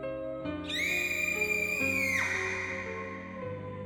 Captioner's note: girl screaming